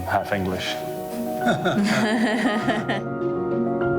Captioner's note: laughs